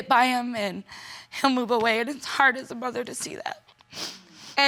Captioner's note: sniffles